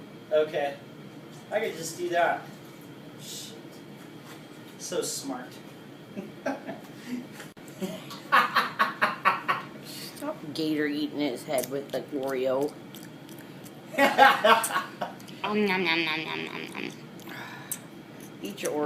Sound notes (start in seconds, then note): 7.9 laughs; 12.9 chomping noises